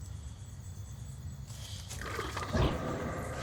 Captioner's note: gurgling